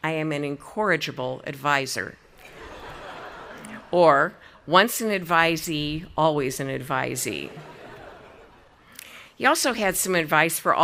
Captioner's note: audience laughing